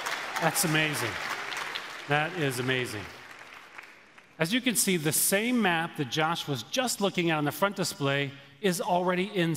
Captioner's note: applause